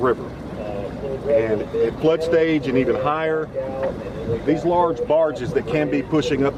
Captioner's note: tug boats